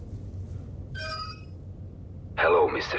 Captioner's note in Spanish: pitido